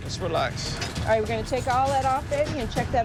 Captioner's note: metal clinking